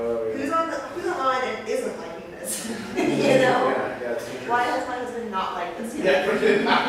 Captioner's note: laughter